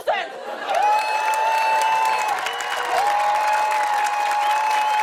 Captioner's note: cheers and applause